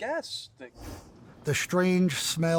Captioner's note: air whooshing